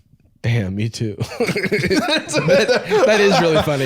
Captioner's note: both laughing